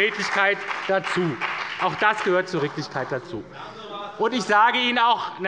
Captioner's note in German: Beifall bei der SPD und dem BÜNDNIS 90/DIE GRÜNEN